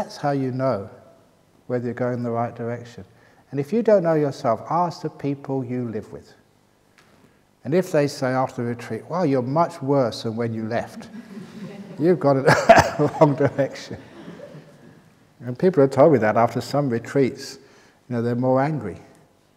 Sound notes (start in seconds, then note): 13.7 laughter